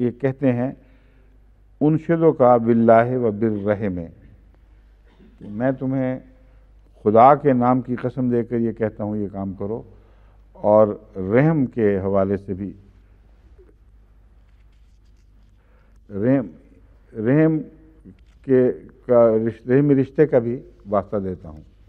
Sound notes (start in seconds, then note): 1.7 Arabic